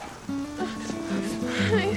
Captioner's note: muffled sobs